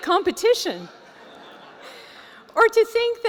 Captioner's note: laughter